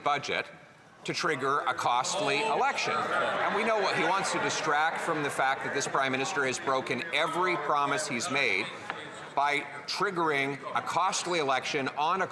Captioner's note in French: voix de l'interprète